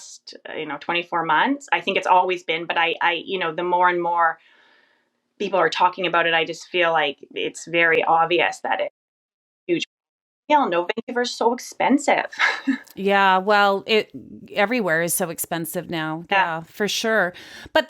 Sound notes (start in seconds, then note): 12.3 laughs